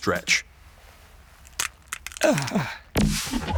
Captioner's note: bones crack